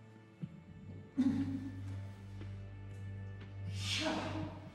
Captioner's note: groans